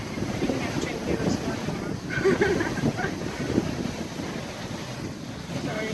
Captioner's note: laughs